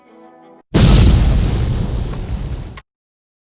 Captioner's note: boom